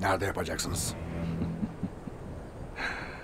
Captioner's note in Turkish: Gülme sesi